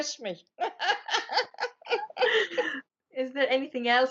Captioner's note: laughing